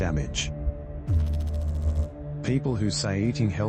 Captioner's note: electrical noise